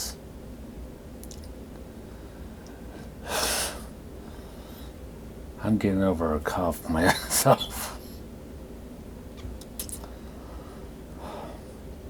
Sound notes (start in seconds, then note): 3.2 exhales sharply; 7.0 coughing